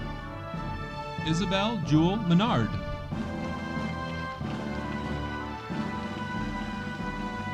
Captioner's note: audience applauding